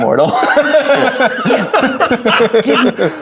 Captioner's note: players laughing